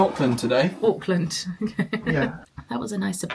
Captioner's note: laughs